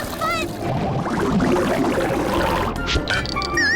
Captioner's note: bubbling